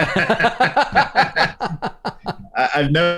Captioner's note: laughter